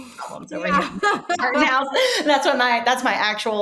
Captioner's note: laughing